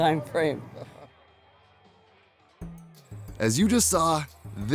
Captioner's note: laughter from behind camera